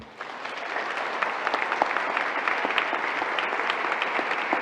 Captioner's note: audience applauding